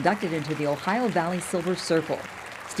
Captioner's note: applause